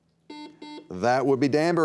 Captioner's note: buzzer beeping